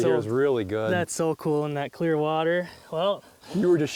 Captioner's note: voiceover